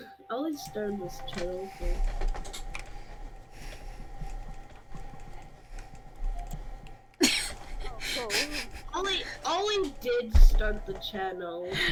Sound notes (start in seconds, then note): 7.9 laughs